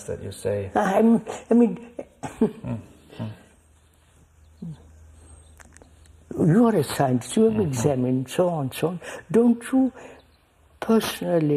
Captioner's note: laughs